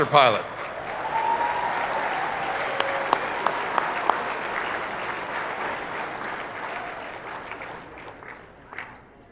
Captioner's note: applause